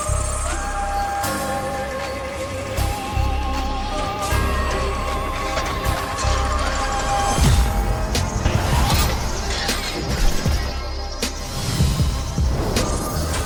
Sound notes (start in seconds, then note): 5.8 machine rattling